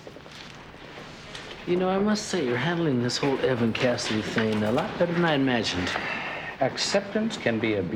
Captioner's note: none